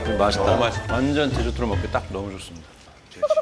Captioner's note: swallowing